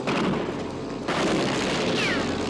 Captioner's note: plane engine revs